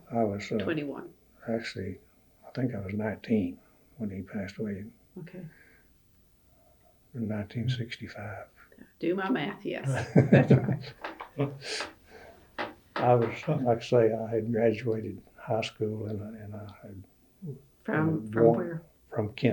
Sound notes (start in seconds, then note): 13.0 laughs